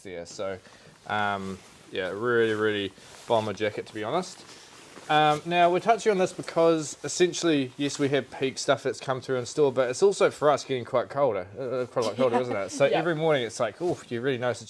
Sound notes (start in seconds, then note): 12.0 chuckles